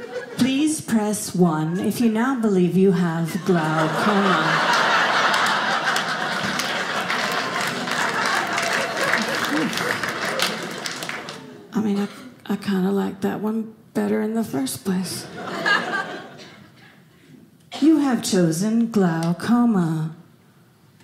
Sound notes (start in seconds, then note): 3.3 audience laughing; 8.0 audience applauding